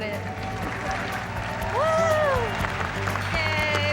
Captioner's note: cheering